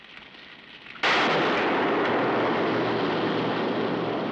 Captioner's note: gunshots